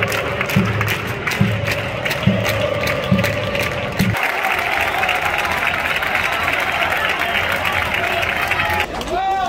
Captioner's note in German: Beifall